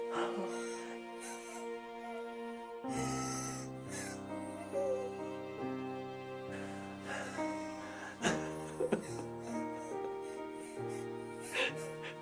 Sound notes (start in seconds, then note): 0.6 Sharon gasping; 8.2 Vincent sobbing